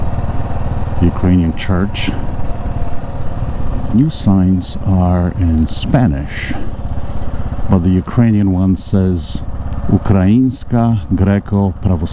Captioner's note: speaking bad Ukrainian